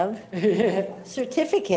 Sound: laughing

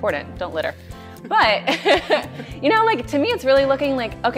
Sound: laughs

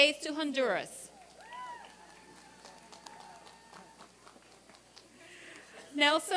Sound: applause and cheering

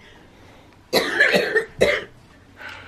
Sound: coughing

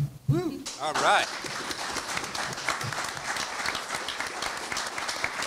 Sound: audience applauds

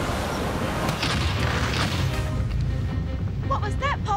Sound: loud bang

